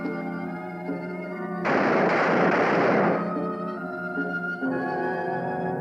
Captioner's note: gunfire